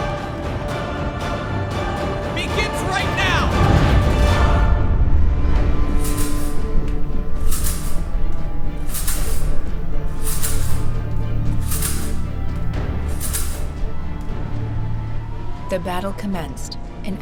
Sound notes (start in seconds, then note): 3.7 spear whooshing; 6.1 metal rattling